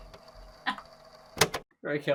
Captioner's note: tape recorder clicking off